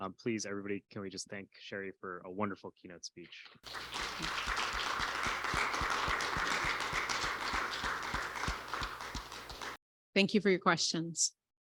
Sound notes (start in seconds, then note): 3.6 audience applauds